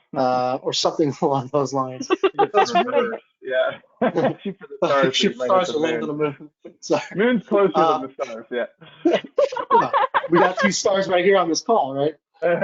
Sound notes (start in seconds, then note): 7.5 laughing